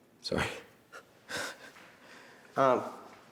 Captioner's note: laughs